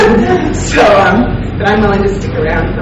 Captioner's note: laughing